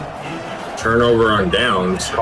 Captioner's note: crowd Noises